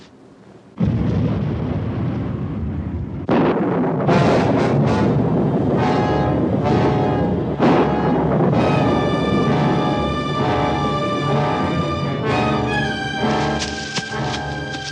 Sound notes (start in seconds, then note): 0.7 thunderclap; 8.5 sinister music